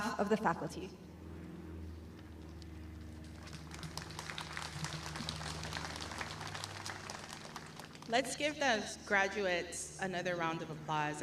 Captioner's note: applause